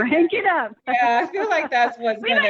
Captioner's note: laughing